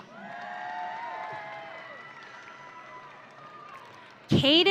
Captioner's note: audience cheering